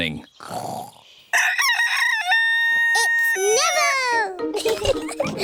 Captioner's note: neville crows; both giggling